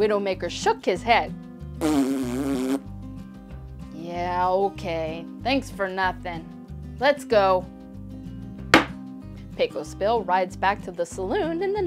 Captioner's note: horsey raspberry